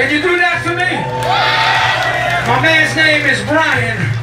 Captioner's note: crowd cheering